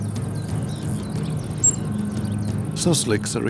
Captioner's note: souslik cries